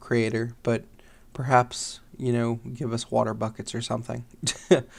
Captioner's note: chuckles